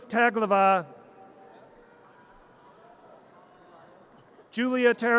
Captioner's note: audience cheers